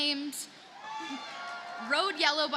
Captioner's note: audience cheers and applauds